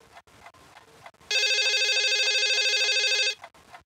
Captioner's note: phone rings